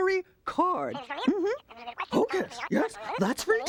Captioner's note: voice babbling